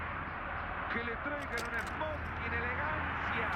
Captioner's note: tv chatter